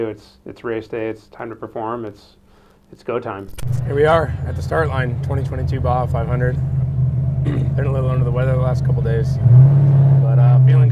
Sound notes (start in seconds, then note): 7.4 clears throat